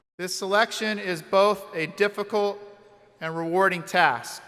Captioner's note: none